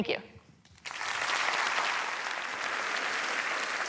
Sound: applause

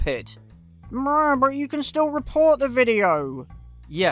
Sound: mocking voice

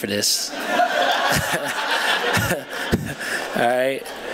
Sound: laughter

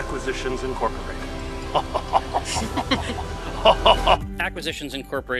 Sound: luxuriant, Evil Cackle

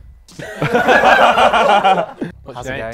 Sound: people laughing

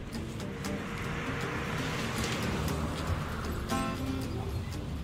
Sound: brakes squeaking

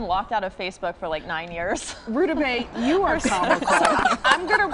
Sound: laughter

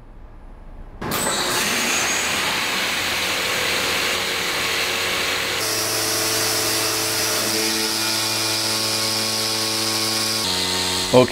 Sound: machine noise

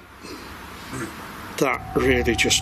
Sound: ghostly voice grunts

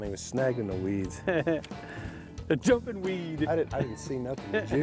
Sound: laughs

